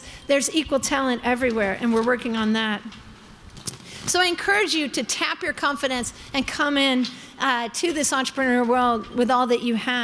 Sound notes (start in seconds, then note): none